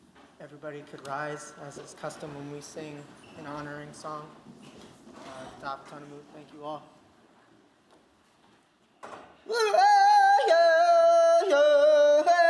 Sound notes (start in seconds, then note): 5.4 non-english speech